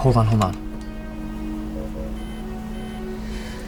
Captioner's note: computer beeps